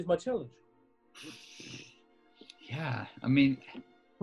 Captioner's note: exhales